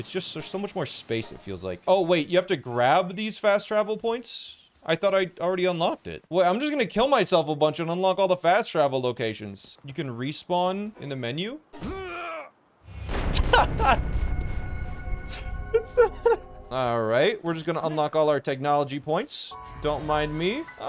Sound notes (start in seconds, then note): 11.7 groaning of death; 11.7 laughing